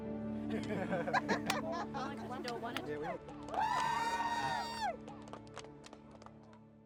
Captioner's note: players laughing, shouting